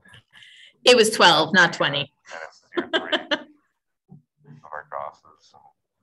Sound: laughs

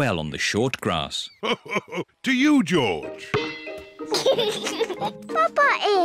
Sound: laughs; giggles

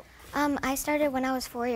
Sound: speaking korean

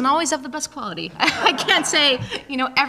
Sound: laughter

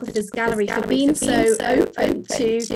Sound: voice scratching

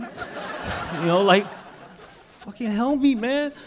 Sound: crowd laughing

